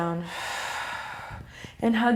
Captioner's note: deep exhale